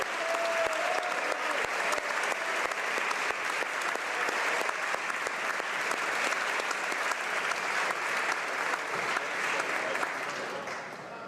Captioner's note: applause